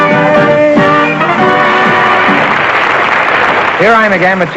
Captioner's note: applause